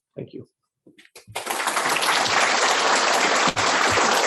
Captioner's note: applause